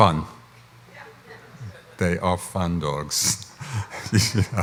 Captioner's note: laughs